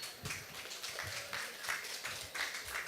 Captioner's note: applause